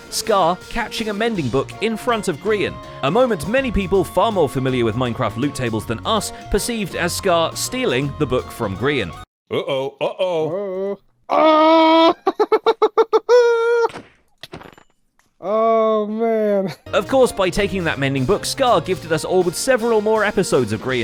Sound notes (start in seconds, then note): 15.7 triumphant laugh; 15.7 smack